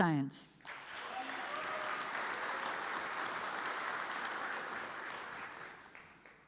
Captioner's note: audience cheers and applauds